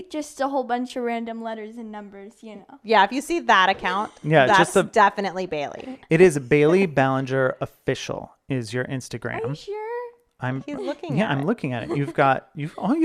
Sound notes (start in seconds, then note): 5.7 laughing